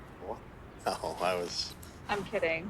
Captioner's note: laughs